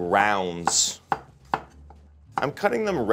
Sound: knife slicing

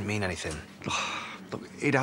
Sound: Terry sighs

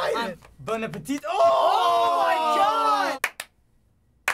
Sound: loud groaning; out-of-sync clapping

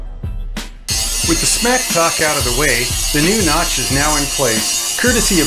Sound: beep

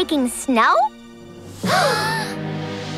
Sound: gasps

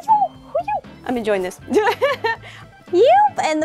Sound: laugh

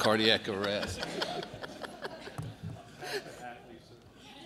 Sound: laughter

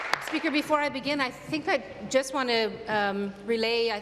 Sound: applause

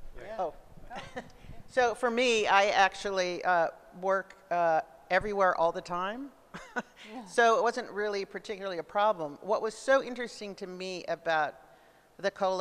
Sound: laughs

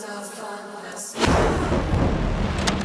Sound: thunder crashes

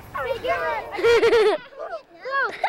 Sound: giggling

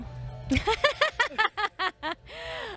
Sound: laughing

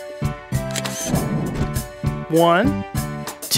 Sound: SFX: Camera Shutter

